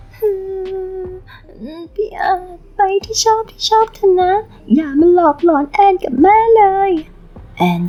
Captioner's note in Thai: เสียงร้องไห้